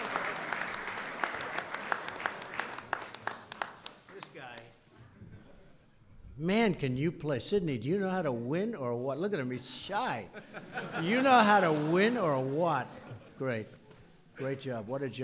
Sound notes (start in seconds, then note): 0.0 applause; 10.3 laughter